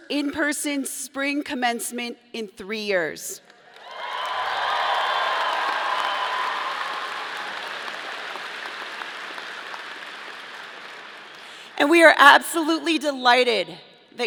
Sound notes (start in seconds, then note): 3.7 audience applauding